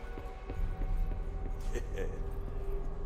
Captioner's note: chuckles